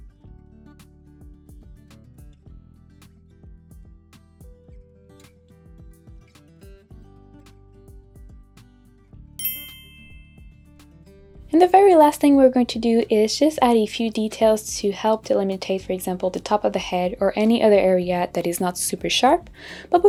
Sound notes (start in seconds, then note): 0.1 peaceful acoustic music; 9.4 dinging sound effect